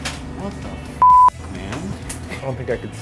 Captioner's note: beep